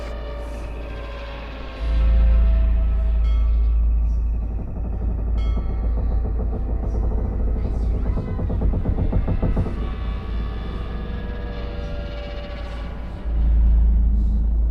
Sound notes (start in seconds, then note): 4.0 bell Ringing; 4.0 ships Creaking